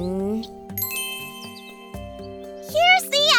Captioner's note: magical sounds